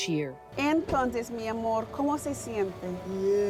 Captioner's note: speaking in foreign language